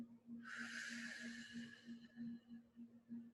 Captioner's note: exhales